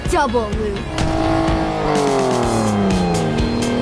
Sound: engine revving; upbeat music

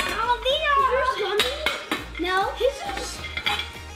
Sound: chattering

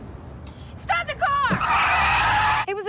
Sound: brakes squeal

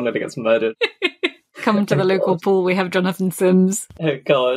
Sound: laughs

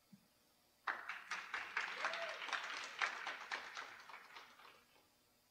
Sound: audience applauding

